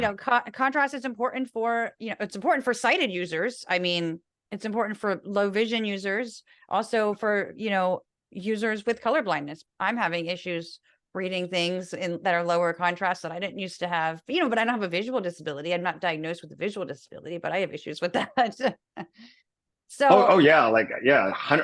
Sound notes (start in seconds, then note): 18.4 laugh